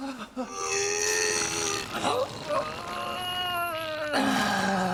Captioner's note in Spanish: gruñendo